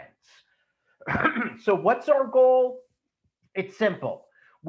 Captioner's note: clears throat